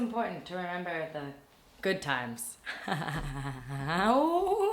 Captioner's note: laughs